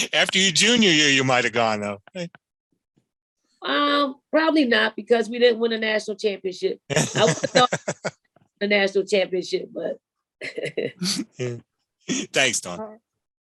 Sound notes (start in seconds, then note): 11.2 chuckles